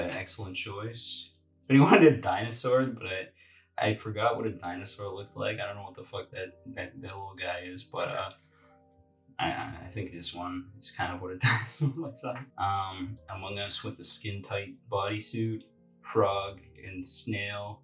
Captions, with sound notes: an excellent choice. Somebody wanted a dinosaur, but I forgot what a dinosaur looked like. I dunno what the (hyuck) that little guy is, but uh.. I think this one is kind of what a dinosaur looks like? Among Us with the skin-tight bodysuit. Frog and Snail.